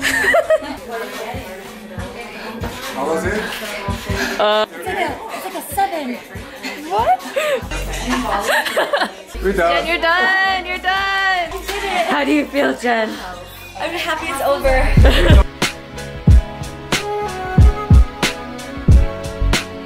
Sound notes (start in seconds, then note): 0.0 laughter; 6.6 laughs; 15.8 mellow pop music